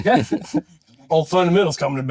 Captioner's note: laughing